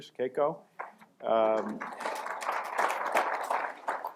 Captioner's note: applause